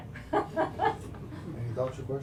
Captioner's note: chuckles